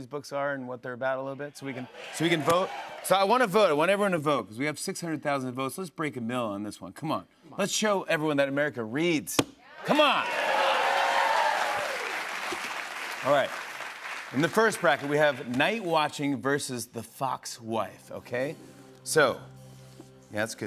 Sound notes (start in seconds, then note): 1.6 crowd cheering; 9.8 cheers and applause; 19.2 suspenseful music plays